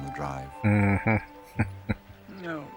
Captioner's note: chuckling